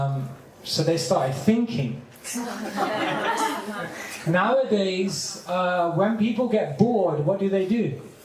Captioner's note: laughter